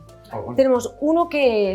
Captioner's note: speaks in Spanish; producer 1 speaks in Spanish; speaks in Spanish